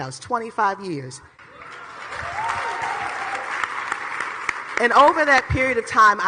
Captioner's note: audience clapping